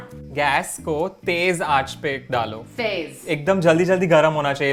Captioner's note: repeating Hindi; speaking in Hindi